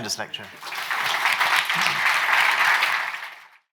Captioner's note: participants clapping